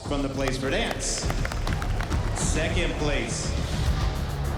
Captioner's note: cheering, applause